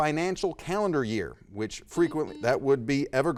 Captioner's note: buzzer dings